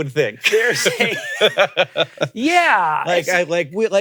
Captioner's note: laugh